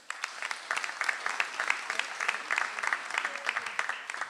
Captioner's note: audience applauds